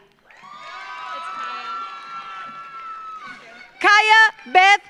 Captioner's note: audience cheers; audience applauds